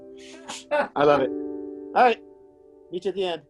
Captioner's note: laughs